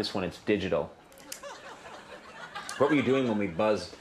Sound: audience laughs

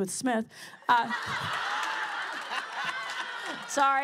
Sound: laughter

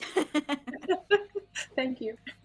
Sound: players laughing

